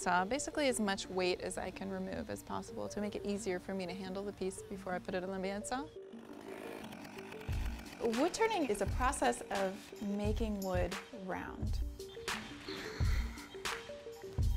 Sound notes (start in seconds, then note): 5.8 chainsaw buzzing; 11.7 hiphop music